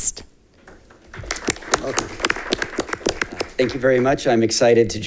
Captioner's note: audience applauds